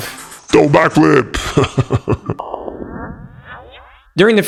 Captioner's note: chuckles